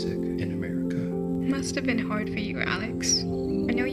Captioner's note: none